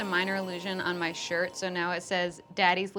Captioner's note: sound of magical sparkles